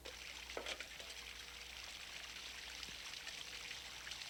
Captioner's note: water gurgling